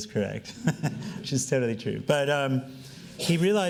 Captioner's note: laughing